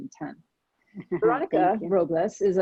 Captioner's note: laughing